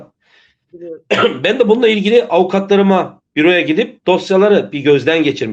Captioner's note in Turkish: boğazını temizler